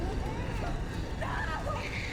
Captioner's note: baby crying and screaming